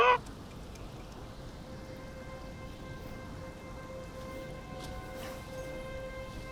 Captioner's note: river brabbling; ominous music